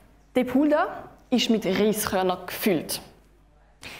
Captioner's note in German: none